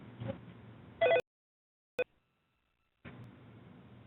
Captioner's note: phone ringing